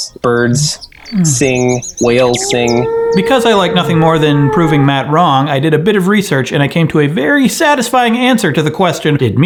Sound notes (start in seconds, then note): 1.0 birds chirping; 2.1 whale groaning